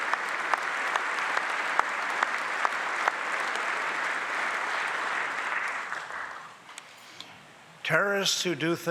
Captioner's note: applause